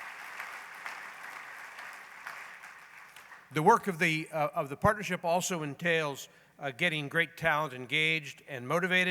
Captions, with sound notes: [applause] The work of the partnership also entails getting great talent engaged and motivated.